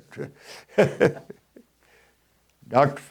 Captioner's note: chuckles